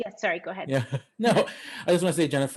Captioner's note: chuckling